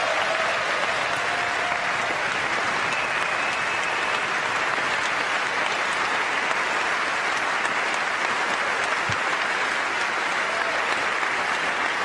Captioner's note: applause